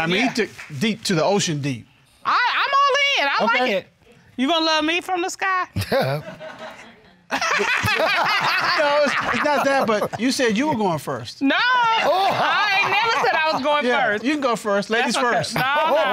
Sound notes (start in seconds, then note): 5.8 laughs; 7.4 laughter